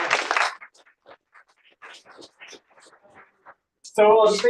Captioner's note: applause